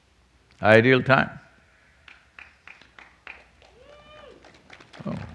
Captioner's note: applause